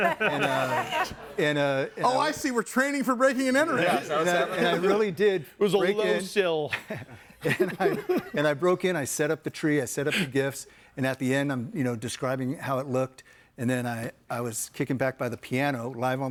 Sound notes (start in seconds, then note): 0.0 everyone laughs; 7.4 laughs